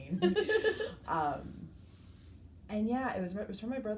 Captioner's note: laughs